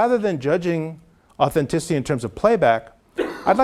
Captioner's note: cough